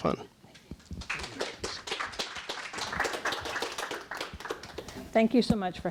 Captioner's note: applause